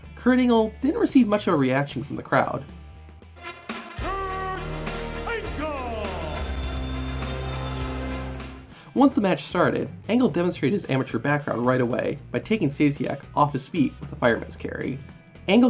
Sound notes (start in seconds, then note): 6.4 audience cheers; 6.4 upbeat music